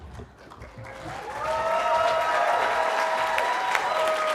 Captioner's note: cheering